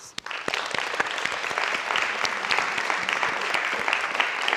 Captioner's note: audience applauding